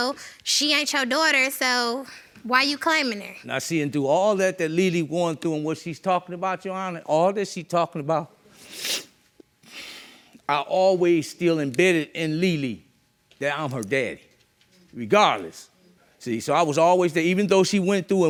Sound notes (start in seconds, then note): 8.6 sniffs